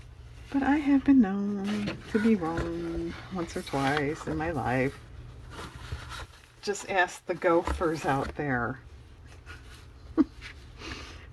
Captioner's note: laughs